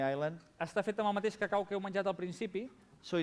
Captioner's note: non-english speech